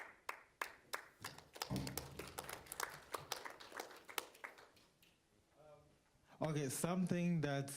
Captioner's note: applauding